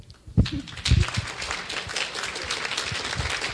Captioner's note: clapping